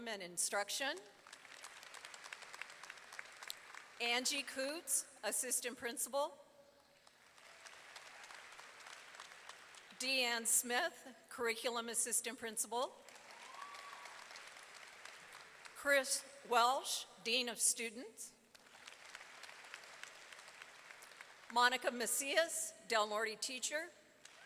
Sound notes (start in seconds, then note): 1.2 audience applauding; 7.0 audience applauding; 13.0 audience clapping and cheering; 18.5 audience applauding; 24.2 audience applauding